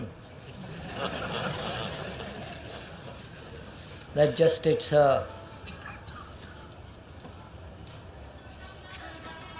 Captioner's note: laughter